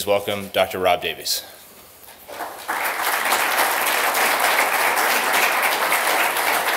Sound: applause

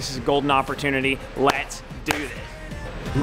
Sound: claps

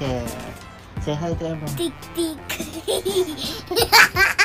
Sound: laughing

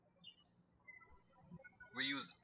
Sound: birds chirping

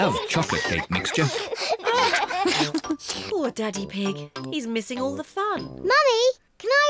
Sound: laughs

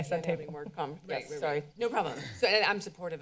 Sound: members chattering

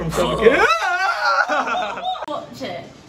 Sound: laughs

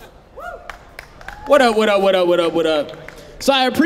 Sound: audience cheering

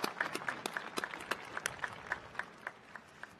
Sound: applause

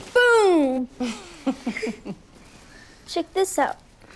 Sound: laughs

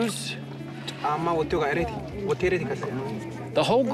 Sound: speaking foreign language

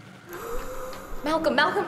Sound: wheezes

